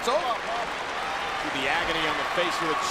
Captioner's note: crowd claps